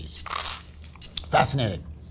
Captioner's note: sandwich rustling